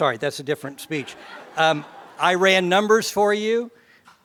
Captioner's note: laugh